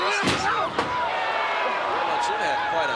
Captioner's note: crowd clamoring; head thudding